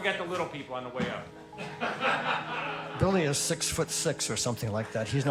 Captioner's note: laughter